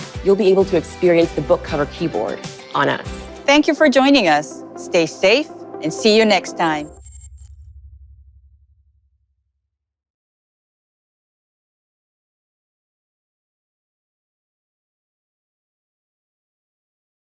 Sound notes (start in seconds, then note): 6.6 electronic sound